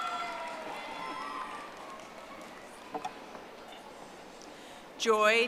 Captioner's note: audience applauding